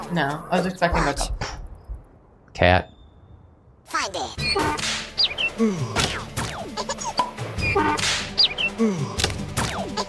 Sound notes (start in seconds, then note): 4.4 sound effects play